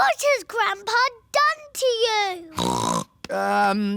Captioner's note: snorts